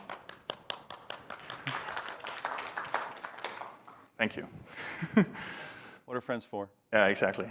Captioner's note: applause